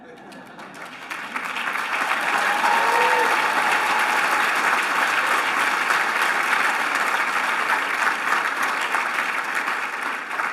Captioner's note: cheers and applause